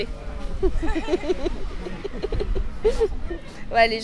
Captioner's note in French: rire